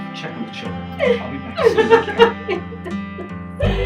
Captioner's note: sobs